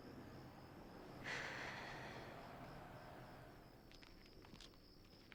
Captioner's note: sighing